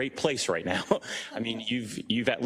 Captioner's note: laugh